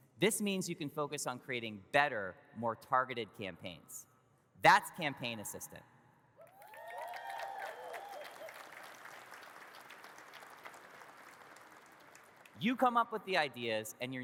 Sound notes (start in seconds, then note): 6.4 audience cheers and claps